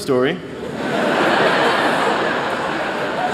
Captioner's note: laughter